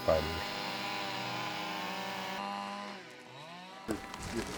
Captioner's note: chainsaws buzzing